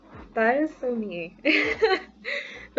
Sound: laughs

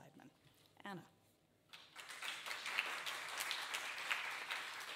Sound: audience applauding

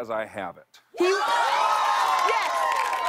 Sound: cheers and applause

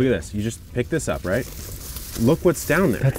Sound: plant rustles

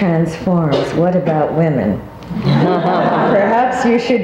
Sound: all laughing

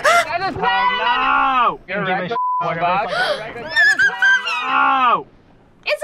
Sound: gasps

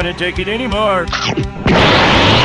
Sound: nom

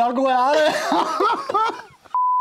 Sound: laughter

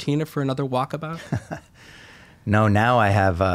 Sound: chuckling

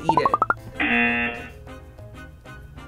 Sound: buzzer

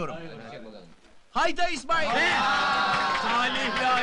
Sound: shouts of applauses, cheers

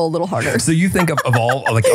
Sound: laughing

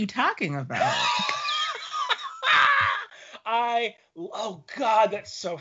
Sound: laughing

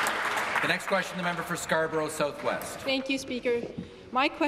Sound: applause

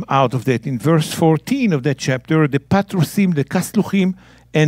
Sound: speaking in Hebrew; speaking in Hebrew

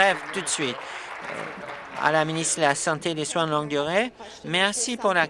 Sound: applause

